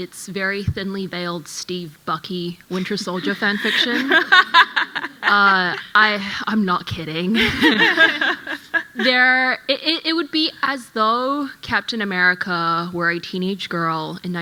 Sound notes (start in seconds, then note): 7.8 panel laughing